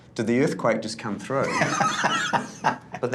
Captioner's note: all laughing